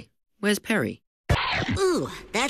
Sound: chomp

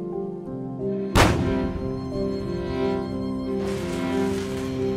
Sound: harpoon fires

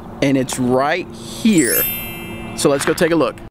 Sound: magical bells

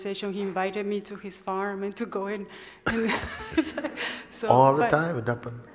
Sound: smijeh

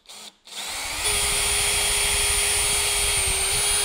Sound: drill operating

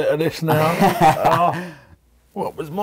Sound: laughs

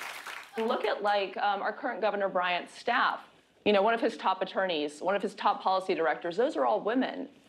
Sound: applause

